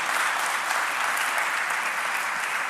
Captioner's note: applause